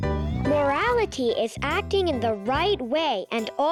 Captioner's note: slide whistle whistling